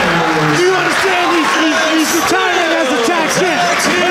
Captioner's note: crowd cheering